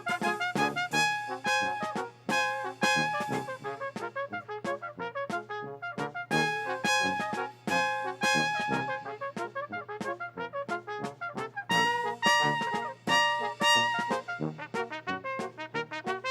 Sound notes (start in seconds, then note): none